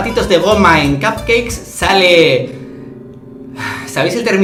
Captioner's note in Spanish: suspiro